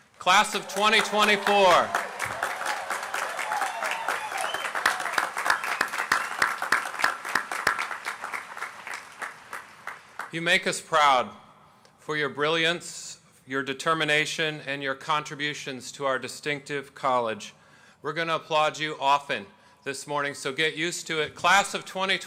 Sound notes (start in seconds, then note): 5.9 applause